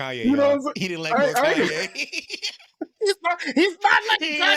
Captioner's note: laughter